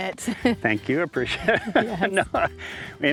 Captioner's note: laughs